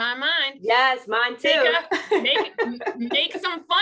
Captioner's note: laughter